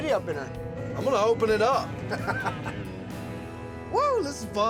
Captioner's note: laughing